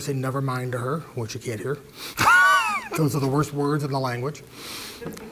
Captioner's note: laugh